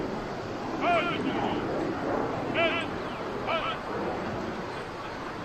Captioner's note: military commands off mic